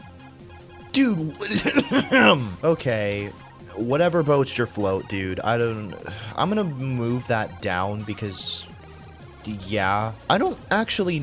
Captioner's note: sputters then clears throat; sigh